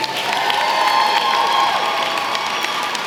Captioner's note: applause